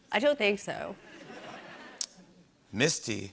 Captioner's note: laughter